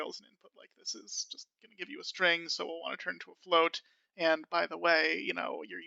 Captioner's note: in stage whisper